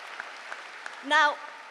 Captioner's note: applause